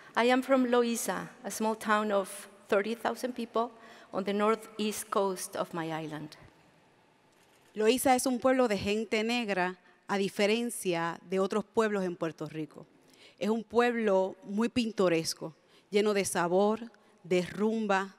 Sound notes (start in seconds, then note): 8.4 speaks in Spanish